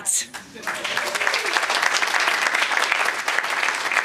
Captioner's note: applause